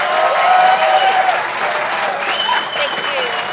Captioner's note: applause